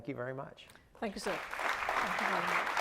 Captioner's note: audience applauds